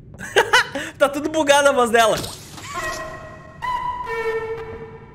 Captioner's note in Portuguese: risos